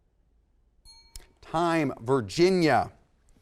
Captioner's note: bell sounds